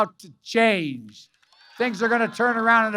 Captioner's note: applause